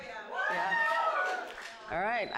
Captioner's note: audience cheers